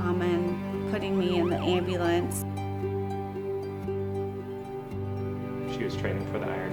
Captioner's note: ambulance sirens